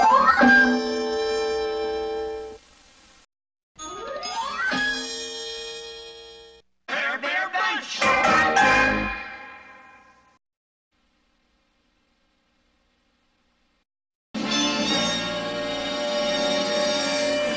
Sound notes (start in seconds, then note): 10.9 old film static; 14.2 cartoon music finishing in a music snippet